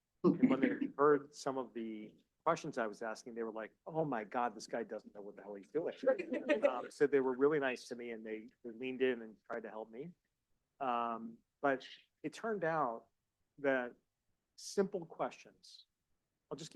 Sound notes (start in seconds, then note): 6.1 audience laughing